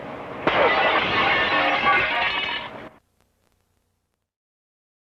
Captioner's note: smashing television set